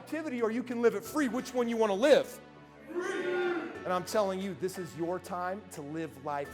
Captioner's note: crowd Cheering Free